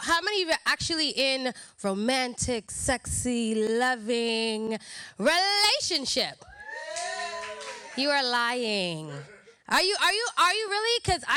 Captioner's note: crowd hooting